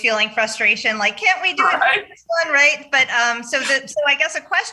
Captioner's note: senator chuckles